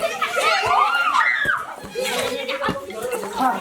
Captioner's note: children screaming